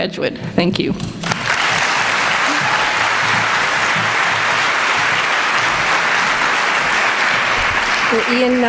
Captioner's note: applause